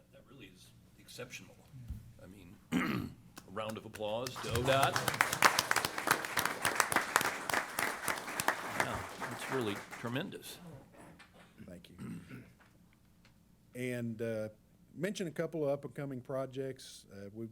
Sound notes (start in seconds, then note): 3.7 applause